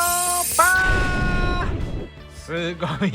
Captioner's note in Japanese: 悲鳴